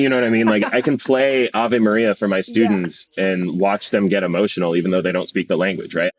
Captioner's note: laughs